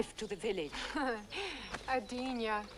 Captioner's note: Hundra scoffs